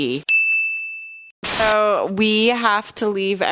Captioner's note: bell dings